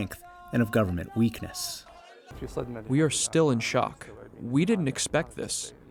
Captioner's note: through translator